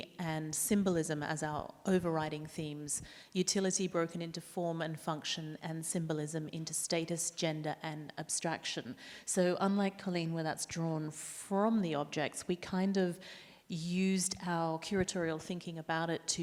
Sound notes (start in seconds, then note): none